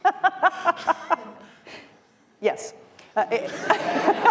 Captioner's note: laughter